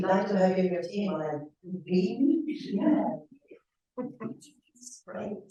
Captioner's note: audience giggling